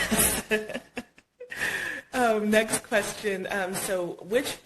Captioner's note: laughing